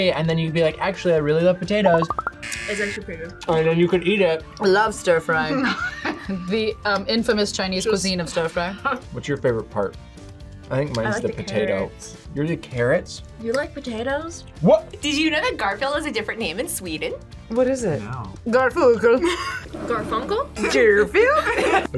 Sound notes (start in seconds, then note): 2.4 buzzer; 5.5 both laugh; 19.2 laughs; 21.2 laughs